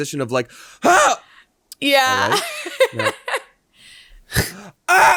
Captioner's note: laughing